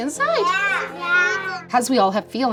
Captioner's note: agreeing